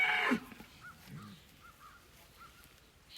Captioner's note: crows cawing